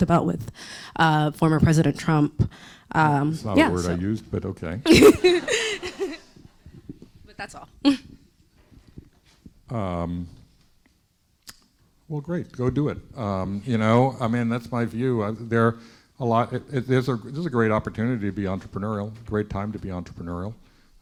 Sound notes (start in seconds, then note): 4.9 laughs